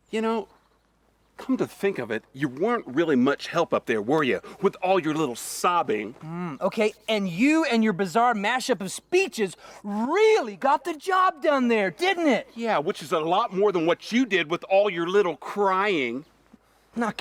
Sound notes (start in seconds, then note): none